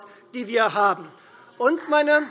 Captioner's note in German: Beifall Freie Demokraten